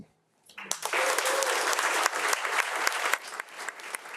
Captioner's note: audience applauding